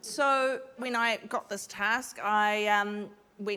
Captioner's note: none